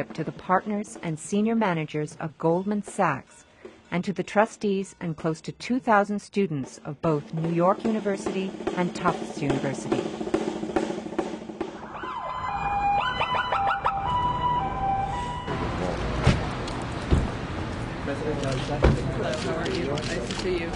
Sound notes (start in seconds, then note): 10.2 drum beating; 11.7 sirens